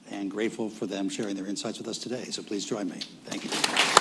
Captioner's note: applause